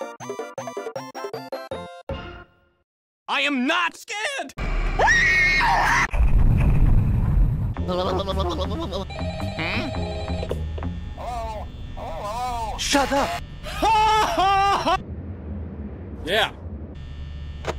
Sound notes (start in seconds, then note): 4.5 static; 8.9 rrrrrrrrrrring